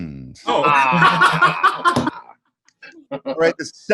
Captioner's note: laughing